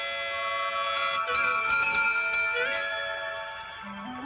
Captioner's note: door bell ringing